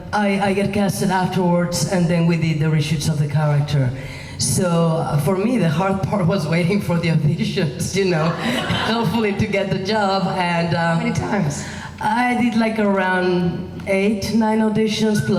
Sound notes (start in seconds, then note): 8.2 laughing